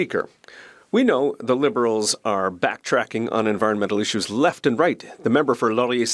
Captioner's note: speaking French